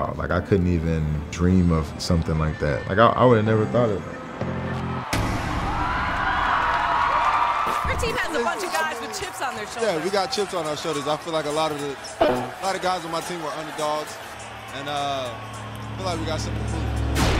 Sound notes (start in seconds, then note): 4.8 loud bang; 6.1 crowd cheering